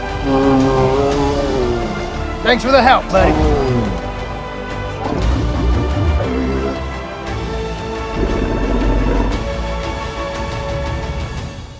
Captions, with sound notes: (Ankylosaurus Sounds) Thanks for the help buddy. (Ankylosaurus Sounds) (Triumphant Music)